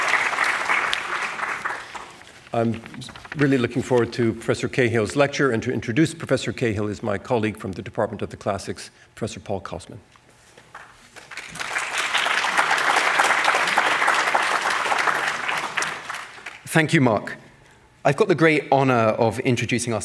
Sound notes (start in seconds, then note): 10.8 audience applauding